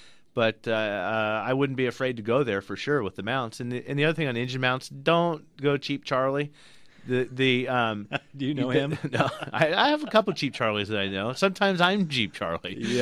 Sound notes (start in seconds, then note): 5.4 laughs; 10.6 both laugh